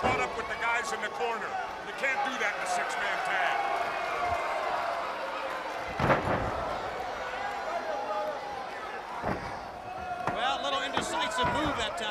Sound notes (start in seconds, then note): 5.3 crowd chatter